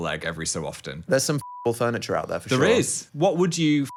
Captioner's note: beep; beep